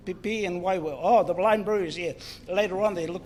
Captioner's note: speaks in foreign language